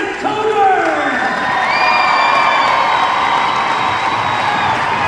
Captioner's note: crowd cheers